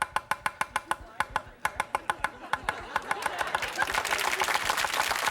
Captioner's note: audience laughing; audience clapping